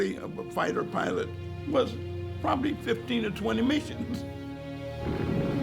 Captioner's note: chuckles